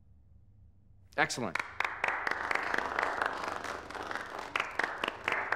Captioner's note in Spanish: aplaudiendo